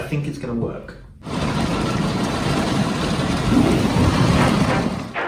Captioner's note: heavy rainfall